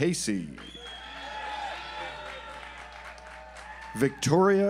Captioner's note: audience applauds